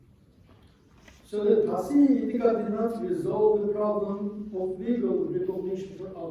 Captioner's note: non-english